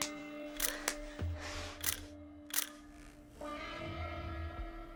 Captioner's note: shutter clicking